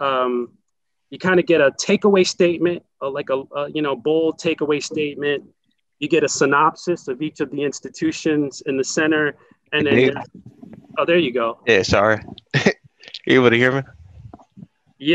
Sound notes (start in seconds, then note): 12.3 chuckles